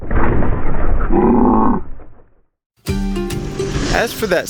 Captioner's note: slow-motion version of surprised yell